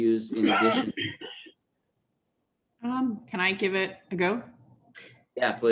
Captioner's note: cough